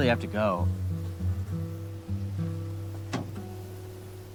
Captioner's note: insects buzzing; door clicking